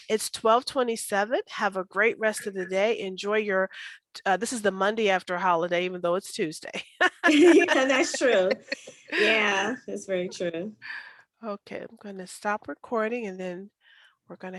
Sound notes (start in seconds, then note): 7.2 laughs